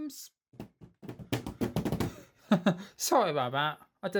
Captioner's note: drumming on the table